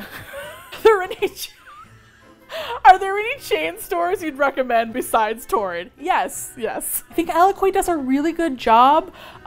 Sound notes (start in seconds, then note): 0.0 laughs